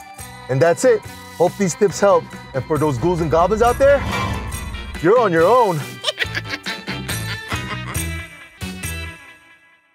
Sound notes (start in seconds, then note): 6.0 witch cackling